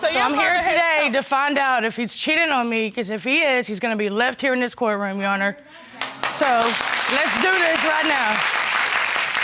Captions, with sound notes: So I'm here today to find out if he's cheating on me 'cause if he is, he's gonna be left here in this courtroom, Your Honor. (AUDIENCE APPLAUDING) So let's do this right now.